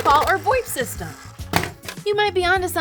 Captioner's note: money gun clatters